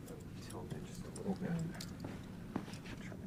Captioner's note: mumbling